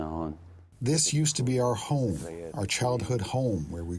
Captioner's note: through translator